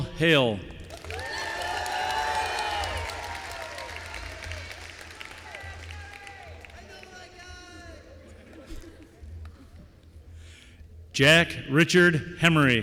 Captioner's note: applause